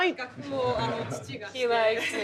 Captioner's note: speaking Japanese